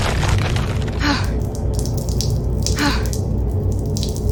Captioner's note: Xu Xang gasping